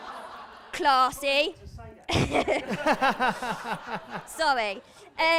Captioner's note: laughter; laughter